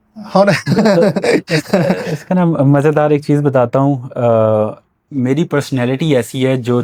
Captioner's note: laughter